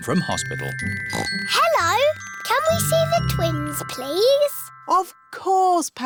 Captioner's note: oinks